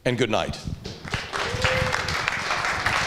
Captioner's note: applause